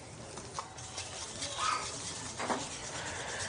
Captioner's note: whisk rattling